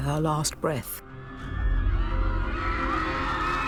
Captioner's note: crowd cheering